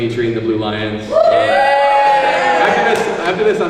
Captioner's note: audience cheers